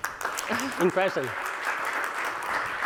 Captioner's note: applause